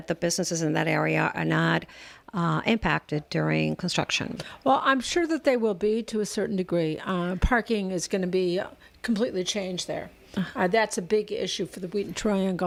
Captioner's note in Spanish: Hablando ingl\s